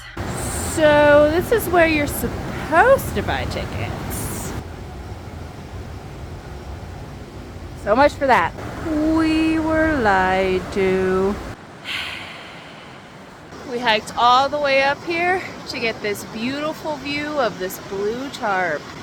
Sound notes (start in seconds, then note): 11.8 heavy sigh